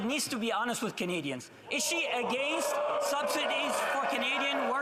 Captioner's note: yelling